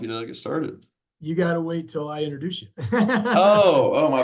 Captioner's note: laughs